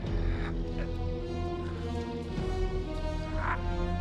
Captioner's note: Carl grunting